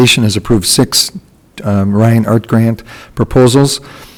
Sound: none

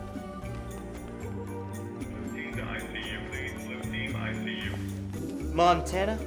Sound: announcement over loudspeaker

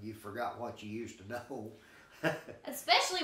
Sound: chuckling

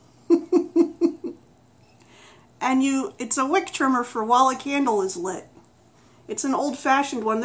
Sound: laughs

